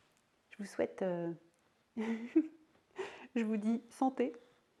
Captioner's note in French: rire